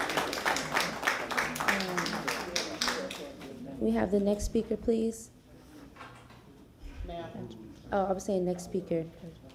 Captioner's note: applause